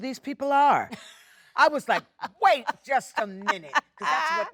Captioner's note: Jennifer laughs